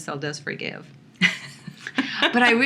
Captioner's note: laughter